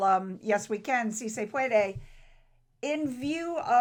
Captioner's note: speaks foreign language